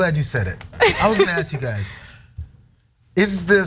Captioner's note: laugh